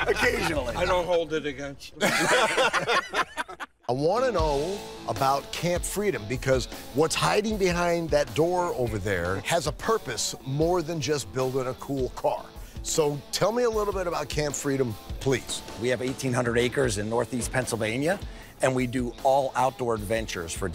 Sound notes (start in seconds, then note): 2.0 laughter